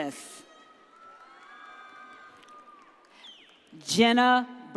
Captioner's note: audience cheers